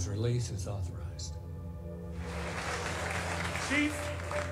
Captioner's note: applause